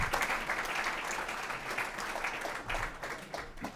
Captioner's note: applause